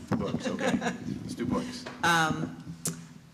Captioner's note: chuckles